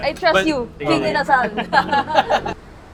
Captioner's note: laughs